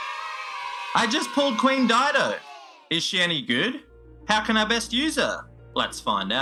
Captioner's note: cheer